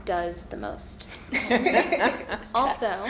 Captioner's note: all laughing